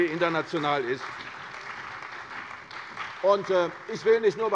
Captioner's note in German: Beifall bei der CDU und dem BÜNDNIS 90/DIE GRÜNEN